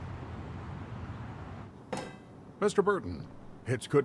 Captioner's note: ball thwacks